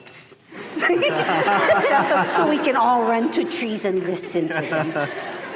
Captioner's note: laughter